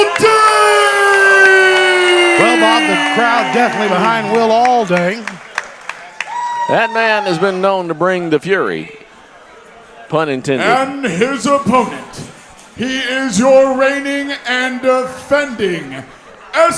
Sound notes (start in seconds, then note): 0.6 crowd cheering; 5.8 crowd cheering